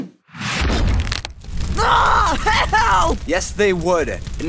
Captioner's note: burning sound